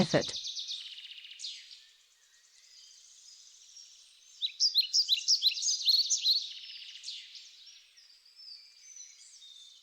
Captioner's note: birds chirping and singing